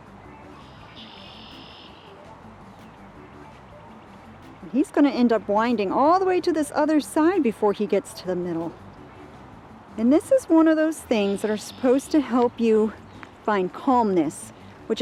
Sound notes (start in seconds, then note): 0.1 birds chirping; 1.1 slow music